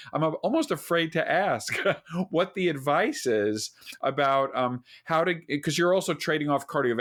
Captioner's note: laughs